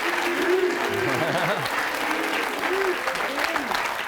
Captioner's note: chuckling